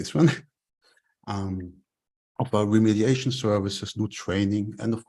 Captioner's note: chuckles